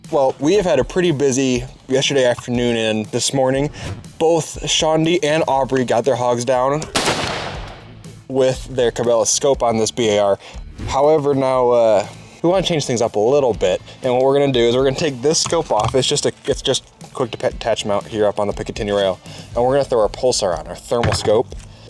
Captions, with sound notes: Well, we have had a pretty busy yesterday afternoon and this morning. Both Shaundi and Aubrey got their hogs down [gunshot] with their Cabela's scope on this BAR. However, now, we want to change things up a little bit, and what we're gonna do is we're gonna take this scope off. It's just a quick to attach mount here up on the Picatinny rail, and we're gonna throw our pulsar on, our thermal scope,